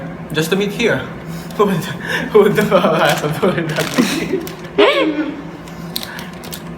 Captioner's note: chuckles